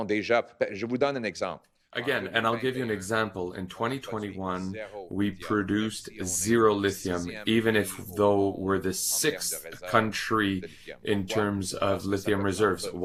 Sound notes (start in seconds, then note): 4.3 speaking French